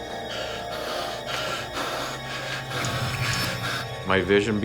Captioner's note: panting